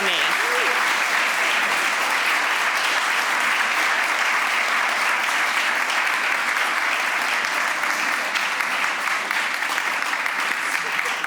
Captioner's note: applause